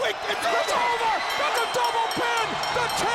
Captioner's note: bell ringing